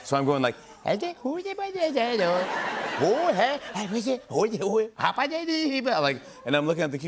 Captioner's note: Imitating Adam Sandler